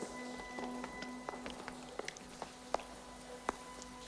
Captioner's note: footsteps